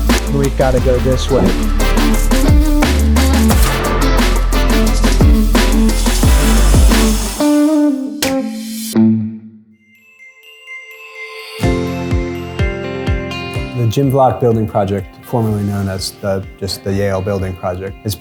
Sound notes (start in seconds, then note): 2.5 sounds of construction tools; 8.2 clap; 9.8 uplifting music